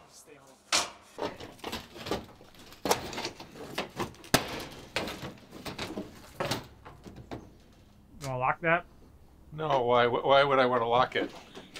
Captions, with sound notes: - Just stay home. (roofing snapping) You wanna lock that? - No, why would I wanna lock it?